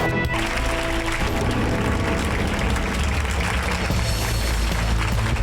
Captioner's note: cheerleaders applauding; suspenseful music